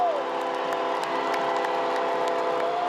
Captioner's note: cheering